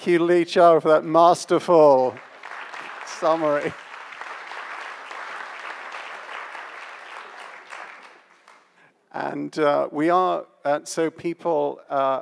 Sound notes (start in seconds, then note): 3.5 audience applauds